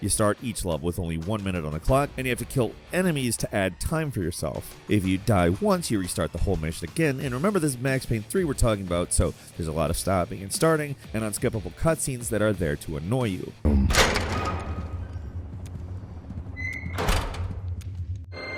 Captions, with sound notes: You start each level with only one minute on a clock and you have to kill enemies to add time for yourself. If you die once you restart the whole mission again and remember this is "Max Payne 3" we're talking about, so there's a lot of stopping and starting and unskippable cut scenes that are there to annoy you. (door opening)